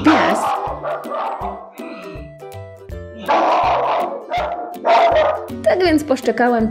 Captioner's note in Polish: szczekanie psa